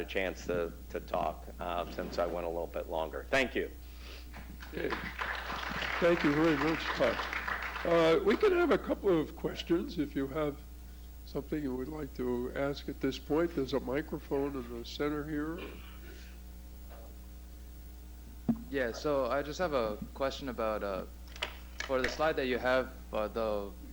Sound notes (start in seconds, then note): 6.2 applause